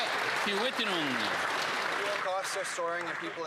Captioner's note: some Applause